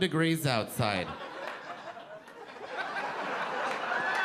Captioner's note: audience laughing